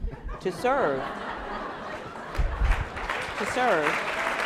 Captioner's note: laughing and applauding